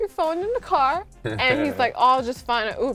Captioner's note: laughing